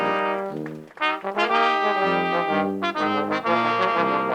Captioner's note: crowd applauds